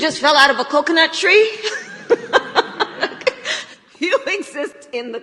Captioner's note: laughs